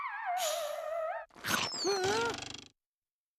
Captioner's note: gasping